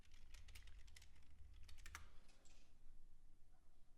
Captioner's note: typing